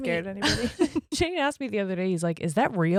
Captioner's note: giggling quickly